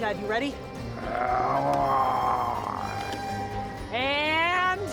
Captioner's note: zombie walter grumbling